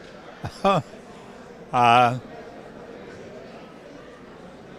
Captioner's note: chuckles